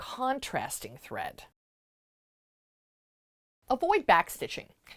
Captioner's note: no Sound Present